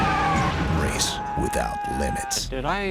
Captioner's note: techno music; scream of terror